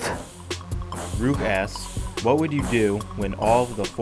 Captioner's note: strong, beating music; voiceover